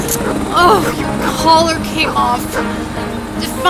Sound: Sandy barks; grunts

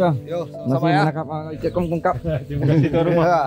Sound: speaking Thai

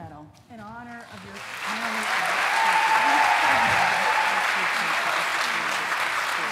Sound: cheering

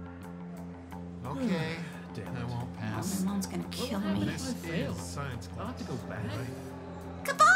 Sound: student chatter

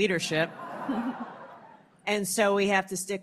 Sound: laughter

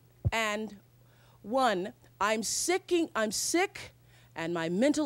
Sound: stutters

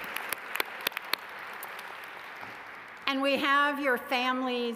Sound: applause

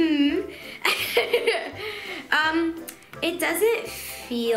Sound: laughing

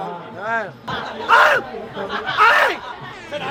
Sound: making threatening noises

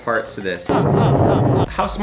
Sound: evil laughing

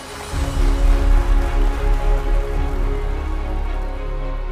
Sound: congregation clapping

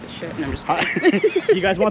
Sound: both laughing

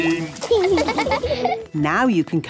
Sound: laughing

